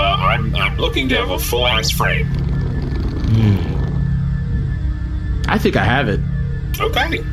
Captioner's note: beeping